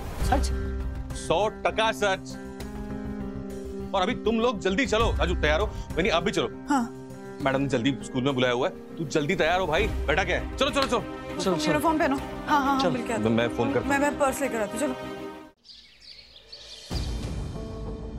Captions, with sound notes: Really? Absolutely! Come with me quickly. - Raju, get ready. You too, Vandana. - Okay. The principal has called us to the school. Get ready. Don't just sit there. Come on! - Let's go. - Change into your uniform. - Yes, let's meet her. - Okay. I'll get my phone. I'll grab my purse. Come on. [birds chirping] [sombre music playing]